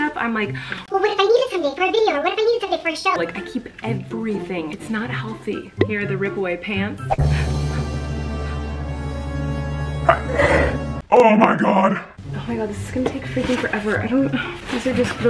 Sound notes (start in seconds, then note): 5.6 popping; 7.0 dramatic intensifying music; 7.1 whooshing; 10.0 sneezing